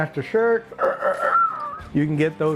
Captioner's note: imitates rooster crowing